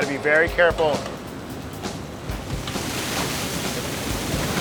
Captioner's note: grapes falling